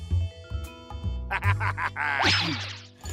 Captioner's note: laughs